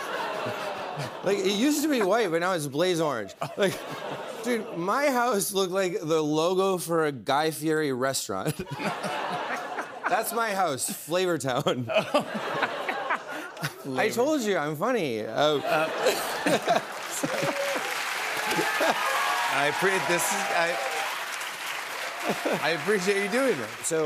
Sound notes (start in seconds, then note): 11.5 laughter; 15.6 laughs; 17.9 applause